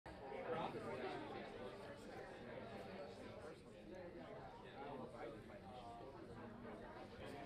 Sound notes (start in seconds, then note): 0.4 people talking amongst themselves